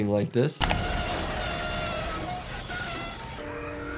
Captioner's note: train wheel screeches; dramatic music